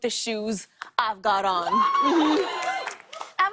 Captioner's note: cheers and applause